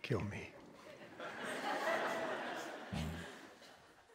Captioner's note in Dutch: Gelach